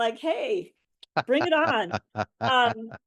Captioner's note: laughs